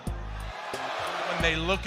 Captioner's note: crowd cheering